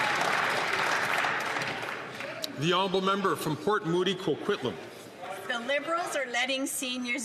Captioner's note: applause